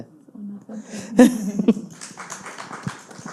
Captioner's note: faintly speaking; audience applauding